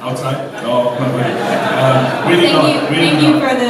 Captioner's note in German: Gelächter